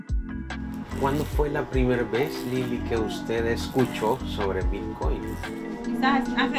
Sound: equipment buzzing; client speaking Spanish; speaking Spanish

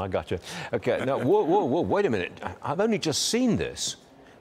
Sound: laughter

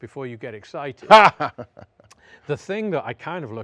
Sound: laughs

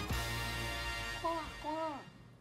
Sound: quacking

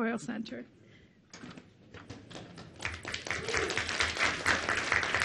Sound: audience clapping

